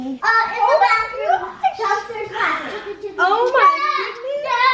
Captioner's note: group chatter